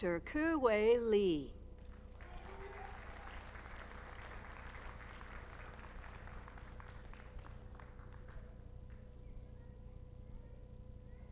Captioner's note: applause